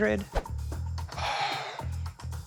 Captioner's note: sighs